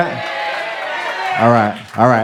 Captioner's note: crowd